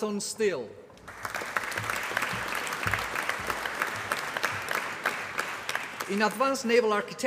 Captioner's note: applause